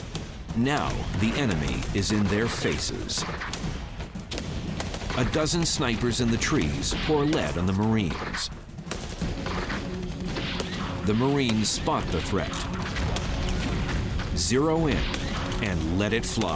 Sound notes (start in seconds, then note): 8.1 gunshots